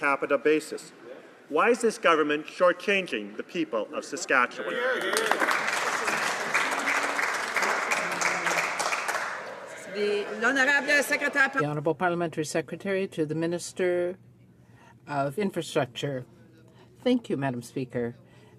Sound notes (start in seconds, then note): 8.5 some Applause